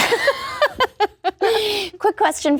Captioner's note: laughing